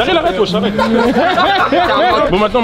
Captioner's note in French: rires